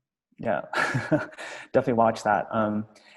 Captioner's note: laughs